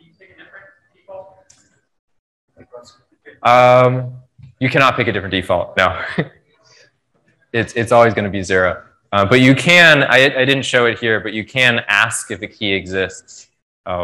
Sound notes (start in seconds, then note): 5.9 laughs